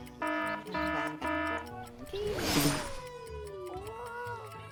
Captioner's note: clock buzzes; clock ticking